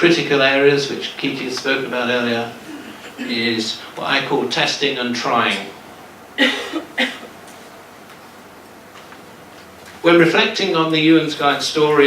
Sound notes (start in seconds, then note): 6.3 coughing